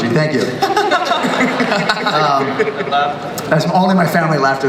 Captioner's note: everyone laughs